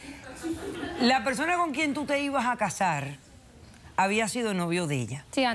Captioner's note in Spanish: risas